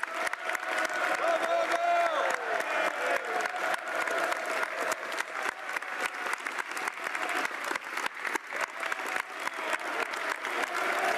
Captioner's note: continued applause